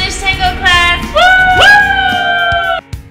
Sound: cheers

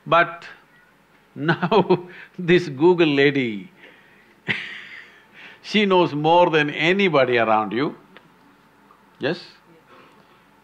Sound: laughs

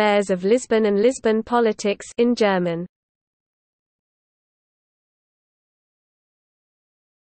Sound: in German

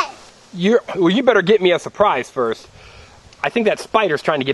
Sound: voiceover

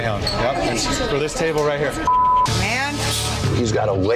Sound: beep

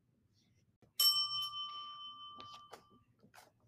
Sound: bell dings

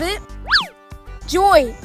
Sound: swish

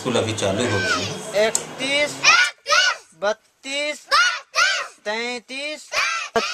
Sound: children reciting numbers

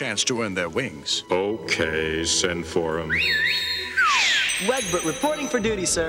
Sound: whistling

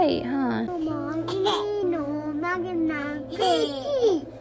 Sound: babbles

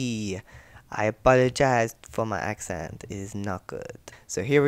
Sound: bad French accent

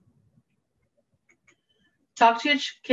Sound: mouse clicking

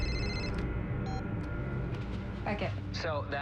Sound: cell phone rings; beep

